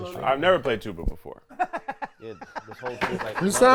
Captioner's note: laughs